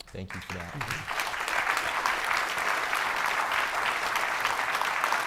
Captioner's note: audience applauding